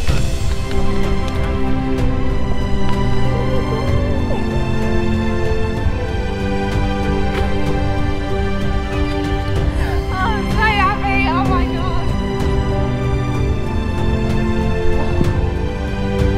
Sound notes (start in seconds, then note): 0.2 gentle uplifting music; 3.3 sobbing; 12.9 gentle uplifting music